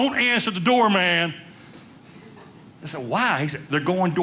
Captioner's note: audience laughing